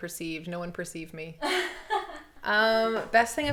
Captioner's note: laughs